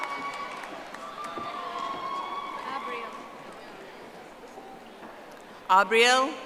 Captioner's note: audience applauding